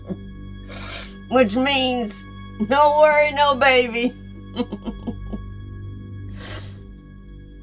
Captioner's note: laughing